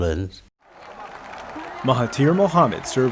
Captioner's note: audience applauding